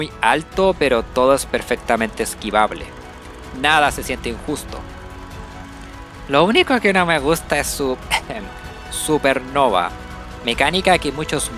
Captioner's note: ahem